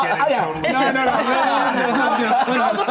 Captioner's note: laughing